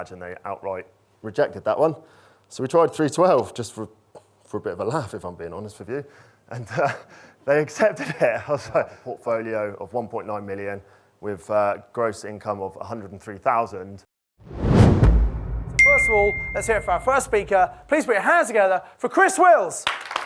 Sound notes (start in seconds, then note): 14.4 dramatic swoosh; 15.8 ping